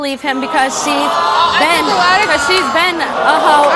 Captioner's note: audience boos